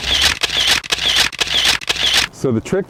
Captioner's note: camera shutter clicks